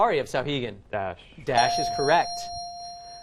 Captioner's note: dinging